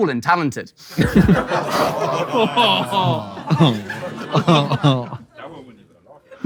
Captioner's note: people in room laughing and moaning